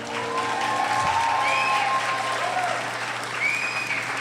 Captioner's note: cheering